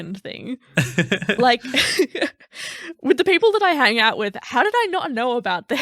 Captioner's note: laughing